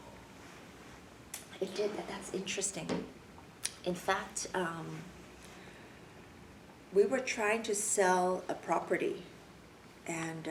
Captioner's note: clicks tongue; clicks tongue